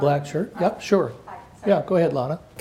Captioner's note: murmurs